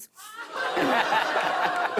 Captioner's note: audience ohhs